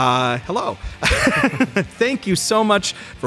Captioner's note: laughter